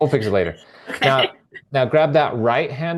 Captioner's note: laughing